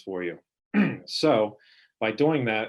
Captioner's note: clearing throat